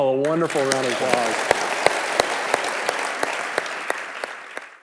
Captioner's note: audience clapping